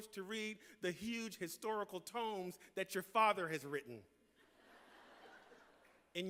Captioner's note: laughter